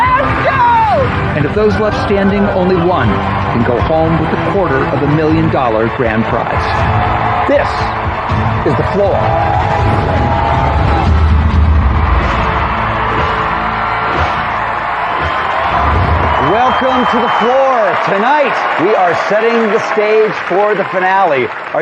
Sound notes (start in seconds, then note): 9.7 cheering and applause; 11.3 dramatic music